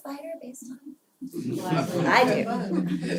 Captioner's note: laugh